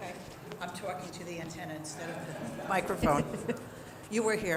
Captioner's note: chatter